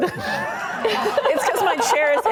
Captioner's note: laughing